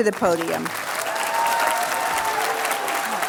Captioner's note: applause